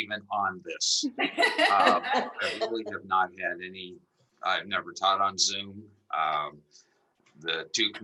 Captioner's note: laughter